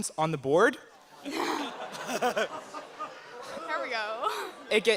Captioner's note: audience laughter